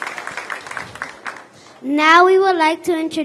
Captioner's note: applause